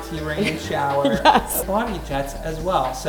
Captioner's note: laughs